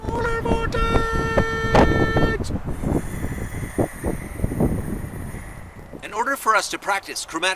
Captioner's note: wind noises